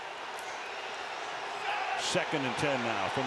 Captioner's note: crowd clamoring